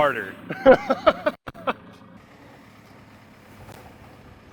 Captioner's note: laughing